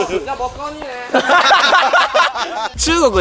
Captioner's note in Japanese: 3人の笑い